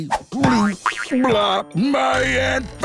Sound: boing

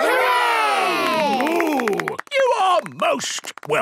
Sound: applause

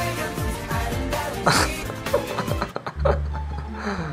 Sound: laughs

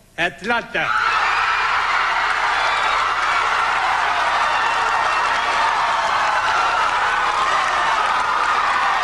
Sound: cheering and applauses

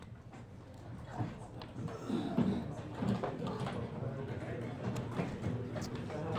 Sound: students chatting and shuffling

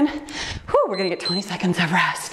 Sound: timer beeps

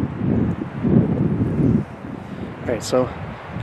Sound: wind whooshing

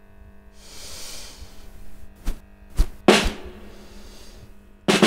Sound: deeply inhaling; drum drumming

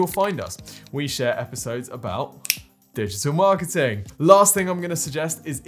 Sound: fingers click

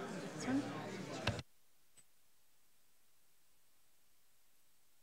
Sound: button clicking

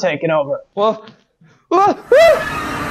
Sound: more Yelling; loud Enter Noise

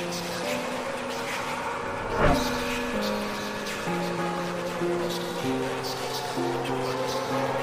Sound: distorted announcer echoes; sirens wail

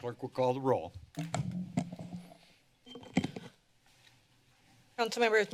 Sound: mic noise

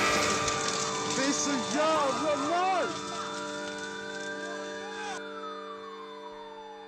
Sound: yelling excitedly; fire crackling; sirens waling

